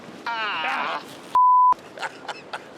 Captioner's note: laughter